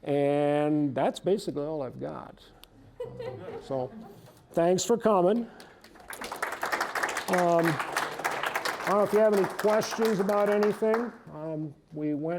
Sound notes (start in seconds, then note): 3.0 audience chuckling; 5.3 applause